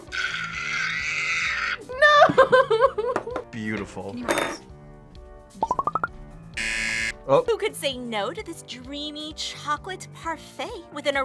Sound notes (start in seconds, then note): 0.0 screams; 2.7 whimpers; 6.5 buzzer